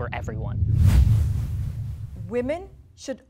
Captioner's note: whooshing sound